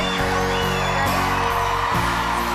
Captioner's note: crowd Cheers